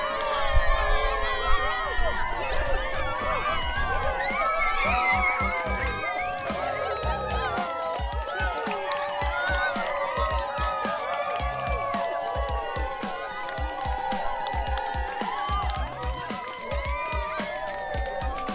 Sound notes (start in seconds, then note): 2.7 cheering continuing; 6.4 lively dance music